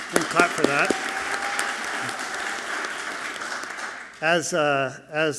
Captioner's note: audience clapping loudly